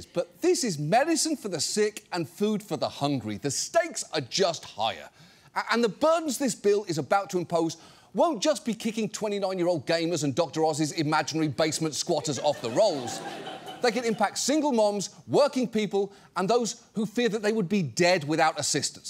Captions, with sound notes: but this is medicine for the sick and food for the hungry. The stakes are just higher. And the burdens this bill is about to impose won't just be kicking 29-year-old gamers and Dr. Oz's imaginary basement squatters -off the rolls. -(STUDIO AUDIENCE LAUGHS) They can impact single moms, working people, and those who fear that they would be dead without assistance.